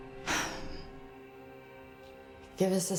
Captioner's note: Rachel sighs